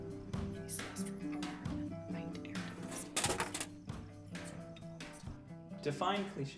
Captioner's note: muttered